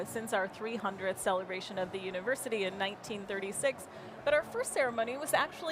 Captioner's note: none